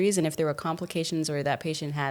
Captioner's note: none